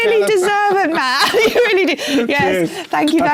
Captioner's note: laugh